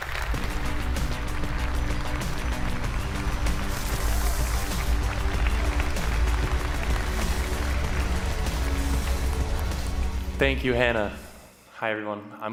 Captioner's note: applause